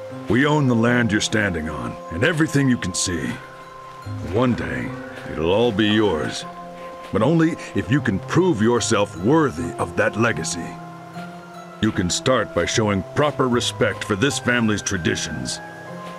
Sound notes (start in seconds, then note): none